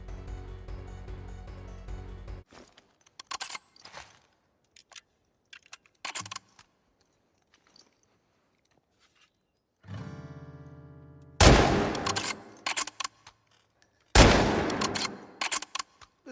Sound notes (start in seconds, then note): 1.9 gunshot